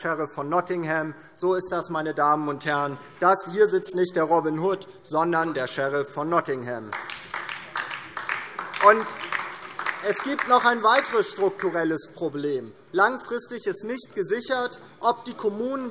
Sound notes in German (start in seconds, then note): 6.8 Beifall DIE LINKE